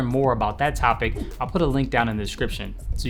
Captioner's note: whooshing